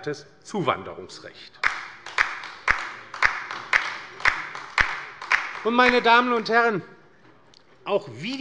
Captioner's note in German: Beifall bei der LINKEN